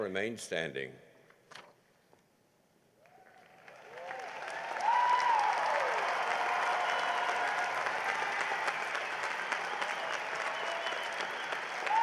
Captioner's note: cheering and applause